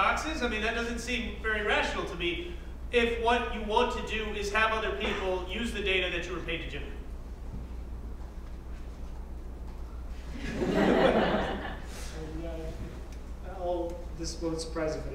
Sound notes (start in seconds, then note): 10.4 laugh